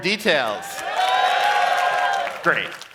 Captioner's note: cheering